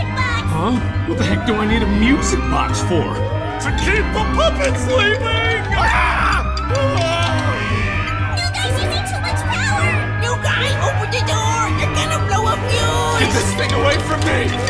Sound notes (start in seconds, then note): 5.6 terrified human sounds